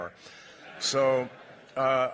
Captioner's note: laughter